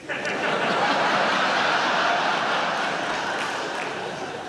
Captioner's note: audience laughs